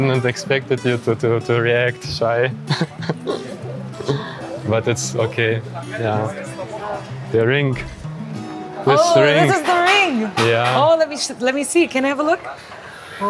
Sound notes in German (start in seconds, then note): 2.5 lacht